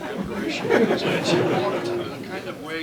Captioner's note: laughter